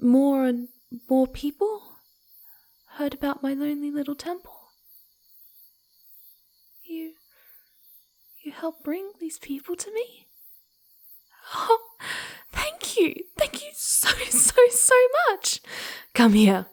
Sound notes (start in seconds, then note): 13.7 crying with joy